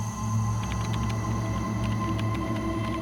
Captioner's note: typing